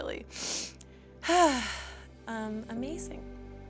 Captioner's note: sniffling and sighing